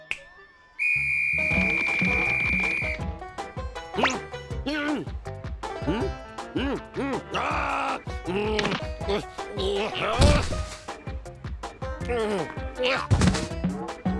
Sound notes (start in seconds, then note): 0.0 snaps fingers; 0.2 whistle blows